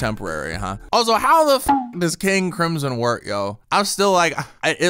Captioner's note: beep